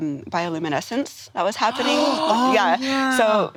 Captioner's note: all gasping